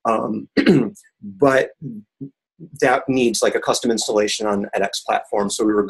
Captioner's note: cough